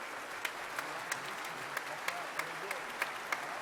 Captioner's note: members clapping